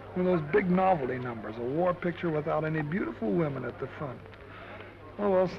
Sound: none

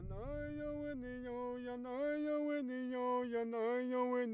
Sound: chanting

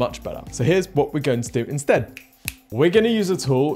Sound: snaps fingers

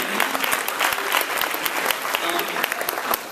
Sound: applause

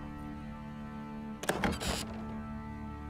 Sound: door squeaks open

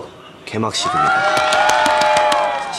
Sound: applause

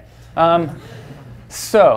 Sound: class chuckles

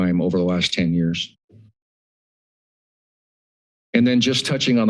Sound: pause

